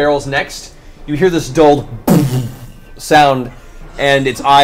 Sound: muffled explosion

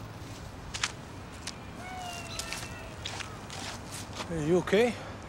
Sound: leaves crunching

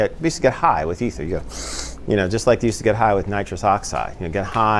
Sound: sniffs

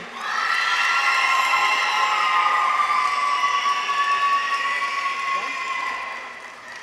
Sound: people cheer; audience applauds

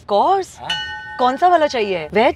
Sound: bell chimming

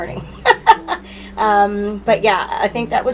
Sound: laughing

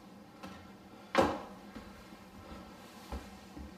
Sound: thud

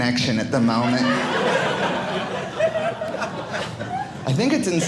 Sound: audience laughing

